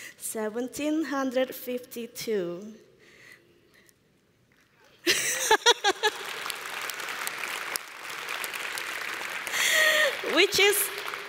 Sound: applause

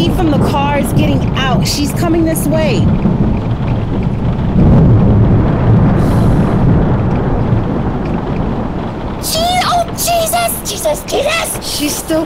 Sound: rain continues

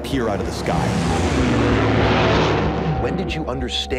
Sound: plane engines roaring

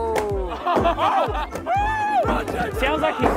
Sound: contestants laughing and cheering

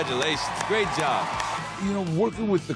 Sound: cheering

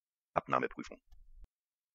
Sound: fast Pronunciation

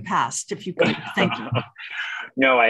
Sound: chuckles

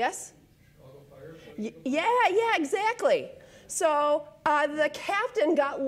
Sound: voiceover

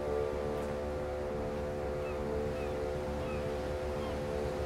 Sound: gulls cawing

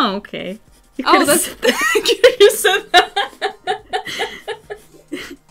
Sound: unintelligible laughter

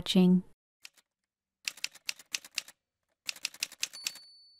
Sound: typewriter sounds

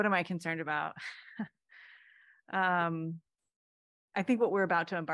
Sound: laughter

